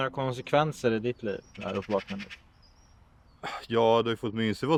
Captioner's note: A bird chirps